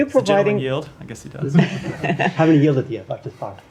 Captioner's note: laughter